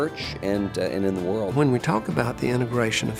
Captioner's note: voiceover